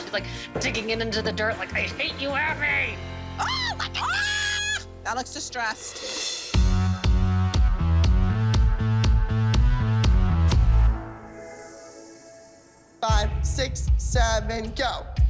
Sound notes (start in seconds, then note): 3.4 yells